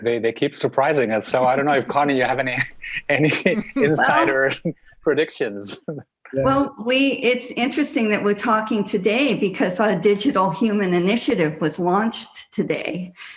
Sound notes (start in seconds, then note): 4.5 chuckles